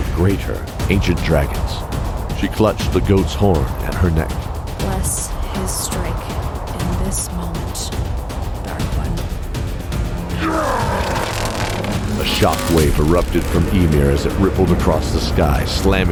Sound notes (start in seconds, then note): 10.3 grunt